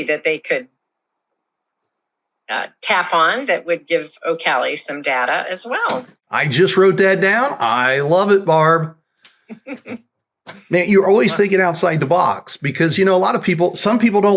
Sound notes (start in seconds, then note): 9.5 laughs